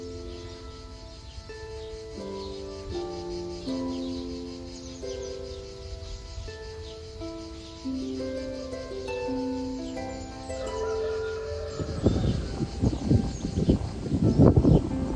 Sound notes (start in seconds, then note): 0.7 laughter